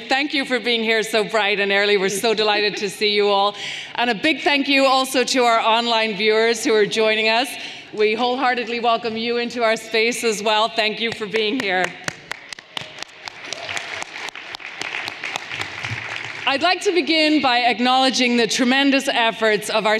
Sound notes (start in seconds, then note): 11.5 everyone applauding